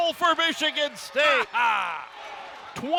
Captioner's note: announcer laughs